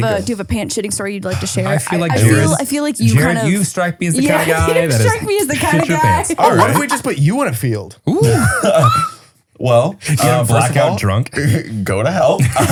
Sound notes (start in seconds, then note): 6.9 laughs